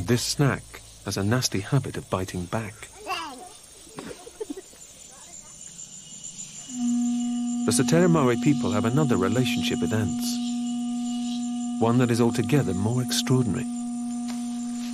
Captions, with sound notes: But this snack has a nasty habit of biting back. (horn blowing) The Satere-Maue people have another relationship with ants. One that is altogether more extraordinary.